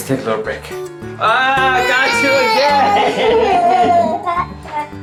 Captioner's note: laughter